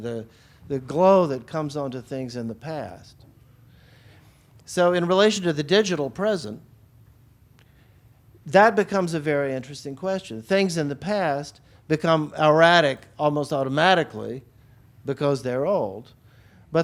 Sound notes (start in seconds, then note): none